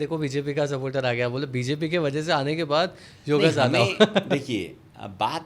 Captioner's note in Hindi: हंसी